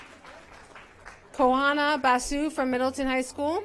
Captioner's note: applause